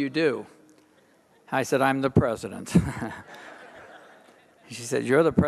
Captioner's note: audience laughing